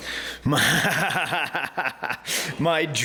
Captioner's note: laughing